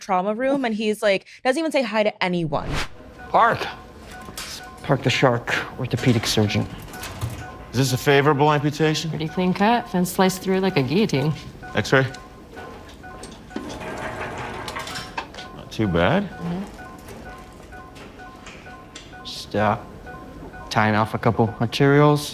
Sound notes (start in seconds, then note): 12.6 ecg machine beeping